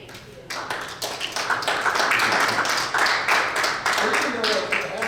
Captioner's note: audience applauds